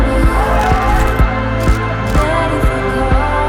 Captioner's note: camera shutters clicking